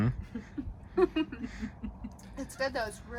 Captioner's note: group murmurs in agreement; giggles